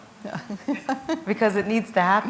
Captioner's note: chuckle